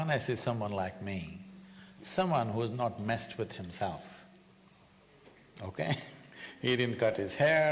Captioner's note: laughs